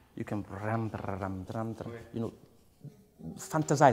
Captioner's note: hums